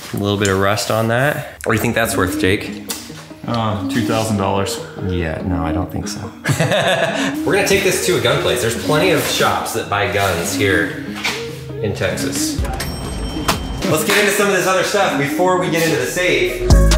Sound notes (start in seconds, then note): 6.0 laughs; 12.5 cash register rings; 16.7 upbeat music